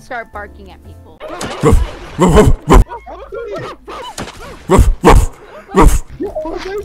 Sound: barking

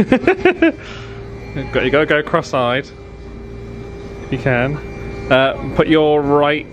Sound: laughs

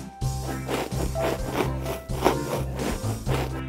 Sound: rough sawing

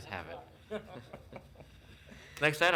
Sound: laughing

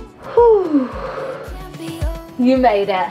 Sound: instructor sighing

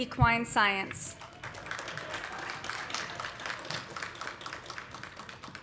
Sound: audience applauding

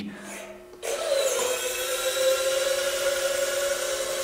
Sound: motor whirring

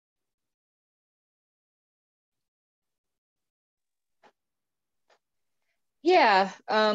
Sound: silence

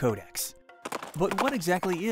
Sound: galloping hooves

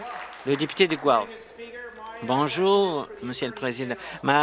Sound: applause

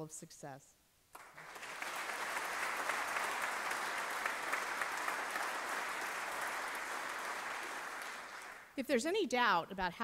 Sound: applause

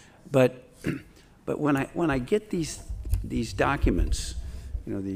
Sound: clears throat

